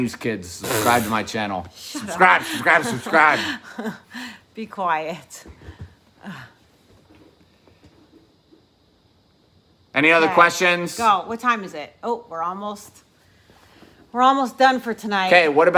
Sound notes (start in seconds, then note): 1.1 vibrates lips; 2.0 chuckling